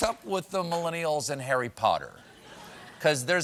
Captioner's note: laughter